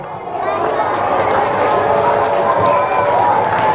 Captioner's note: applause